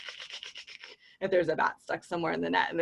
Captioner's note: clicking